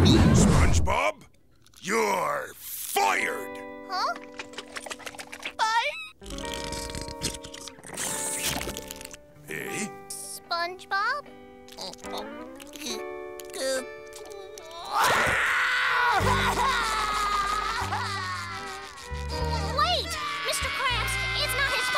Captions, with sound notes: SpongeBob, you're fired. Huh? Fired? Heh? SpongeBob? [whimpering] [crying] Wait. Mr. Krabs, it's not his fault.